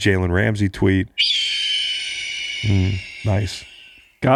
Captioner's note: high pitch squealing